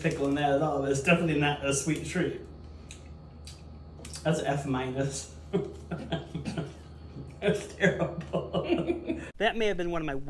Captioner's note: laughter